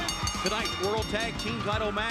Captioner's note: bell ringing